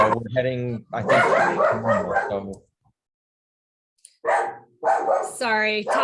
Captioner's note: dog barking